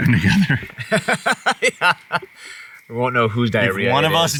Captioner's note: Ryan laughs